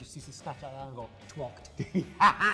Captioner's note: laughing